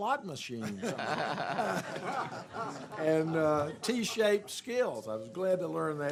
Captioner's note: laughter